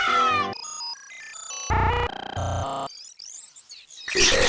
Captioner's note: Super Mario 64 noises glitch out; harsh distorted noises